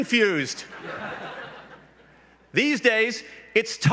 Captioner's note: laughs